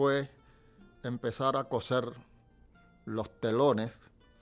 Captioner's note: speaking in spanish